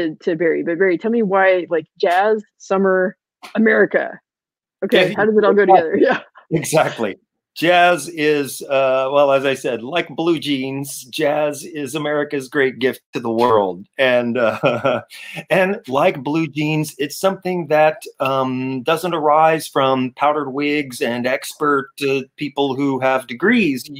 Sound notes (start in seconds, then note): 13.2 laughing